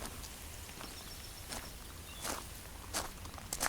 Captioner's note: birdsong, gravel footsteps